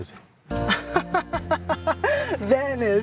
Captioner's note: laughs